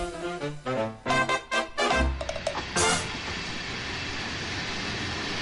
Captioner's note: static